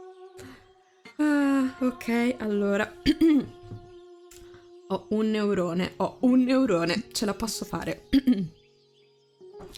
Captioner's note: clears throat